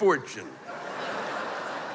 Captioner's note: laughter